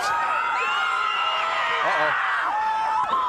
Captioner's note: audience cheering